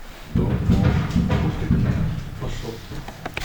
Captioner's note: explosions audible